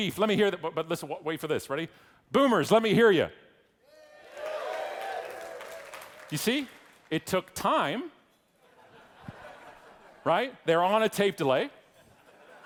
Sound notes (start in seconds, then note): 4.0 audience yelling; 8.6 audience laughing